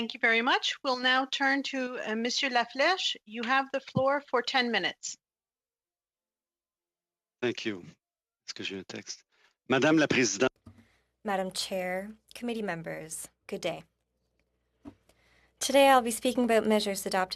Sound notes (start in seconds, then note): 12.8 speaking FRENCH